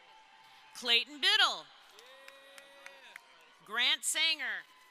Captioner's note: crowd applauding